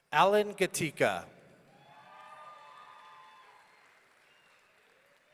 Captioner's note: audience cheering